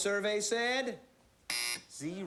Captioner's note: buzzer